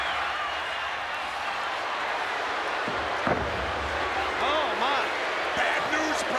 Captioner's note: applause